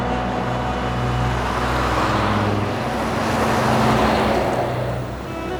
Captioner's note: traffic noise